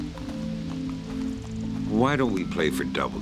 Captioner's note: gravel crunching